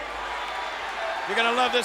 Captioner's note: audience cheers